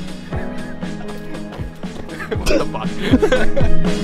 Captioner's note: gentle upbeat music; laughs; cameraman laughs